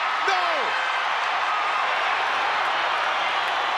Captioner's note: crowd cheering